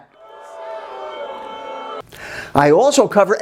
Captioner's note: crowd boos